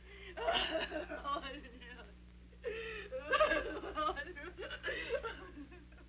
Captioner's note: sobbing